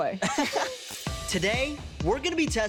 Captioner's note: laughing